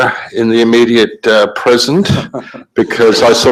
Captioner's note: laughing